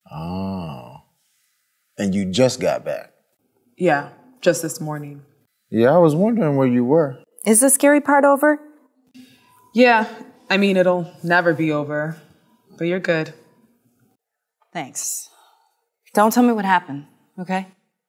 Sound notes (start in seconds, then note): none